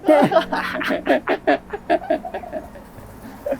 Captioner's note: laughing